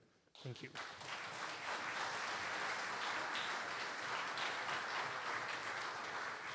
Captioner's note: audience Applause